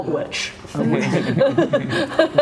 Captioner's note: laughs